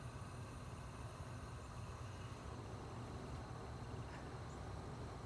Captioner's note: none